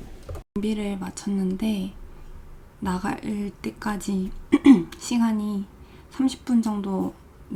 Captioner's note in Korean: 목을 가다듬음